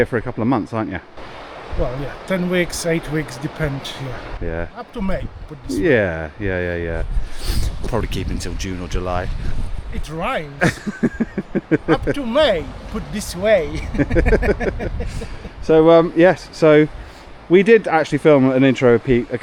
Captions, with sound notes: for a couple of months, aren't you? Well, yeah, 10 weeks, eight weeks depends here. Yeah. Up to May, put this. Yeah, yeah, yeah, yeah. Probably keep until June or July. It rhymes. (laughing) Up to May, put this way. (laughing) So yes, so we did actually film an intro, Pete,